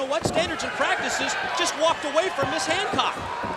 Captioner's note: crowd chatter